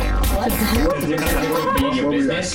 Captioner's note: laughter